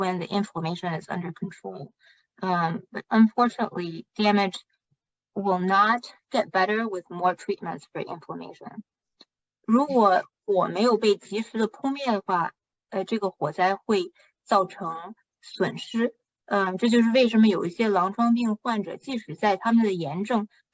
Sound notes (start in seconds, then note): 4.9 speaking chinese